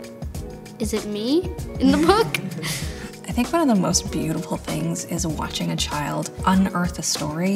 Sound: laugh

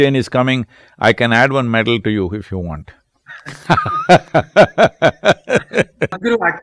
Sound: both laugh

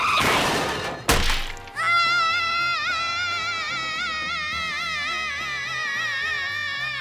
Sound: crashing; screaming

